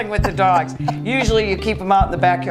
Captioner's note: laughing